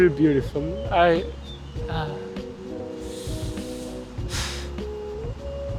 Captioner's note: sighs